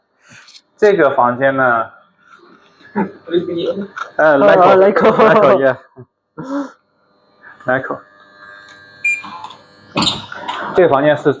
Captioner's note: laughs